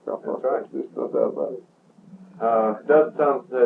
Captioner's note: laughs